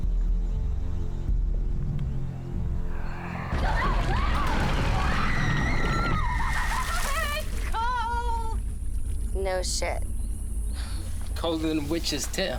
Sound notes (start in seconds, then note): 2.9 screaming; 6.9 screaming and laughing